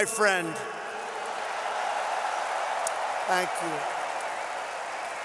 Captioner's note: applause